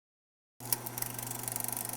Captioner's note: old film reel noise